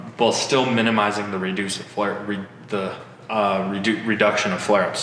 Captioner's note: stutters